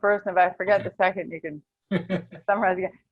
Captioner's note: laughs lightly